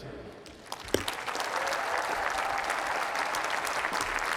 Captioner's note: applause